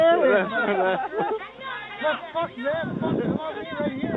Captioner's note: soldiers laughing